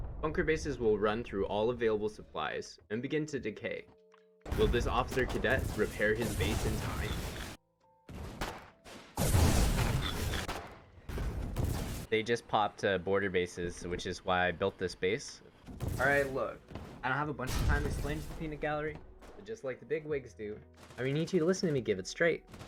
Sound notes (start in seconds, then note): 8.9 explosive round out; 10.8 gunfire and explosions